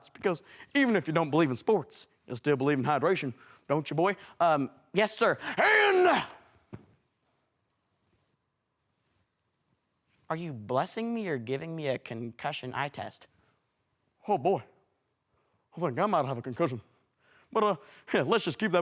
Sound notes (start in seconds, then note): 6.3 thump; 7.0 silence